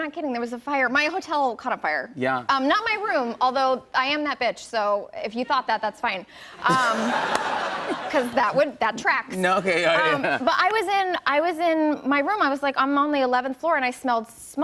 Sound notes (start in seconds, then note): 6.5 laughter